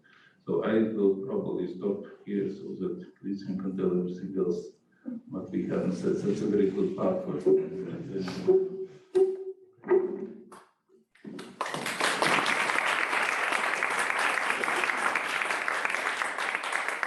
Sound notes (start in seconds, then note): 11.3 applause